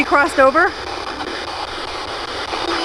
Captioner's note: electronic static hissing